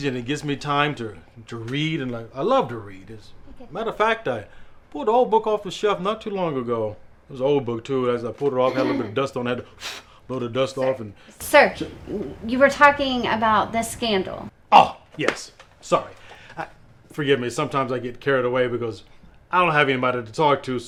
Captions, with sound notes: and it gives me time to read, and I love to read. - Okay. - As a matter of fact, I pulled an old book off a shelf not too long ago. It was old book too. As I pulled it off, it had a little bit of dust on it. I had to (blows lightly) blow the dust off, and- - Sir! You were talking about the scandal. - Ah, yes! Sorry. Forgive me, sometimes I get carried away, because I don't have anybody to talk to.